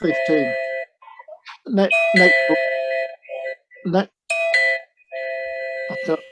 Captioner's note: beeping